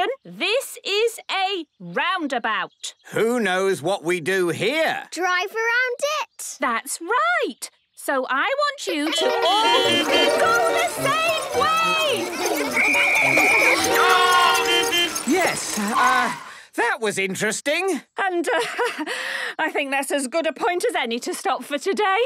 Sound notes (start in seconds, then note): 9.1 beeping; 12.7 whistle blowing; 14.6 beeping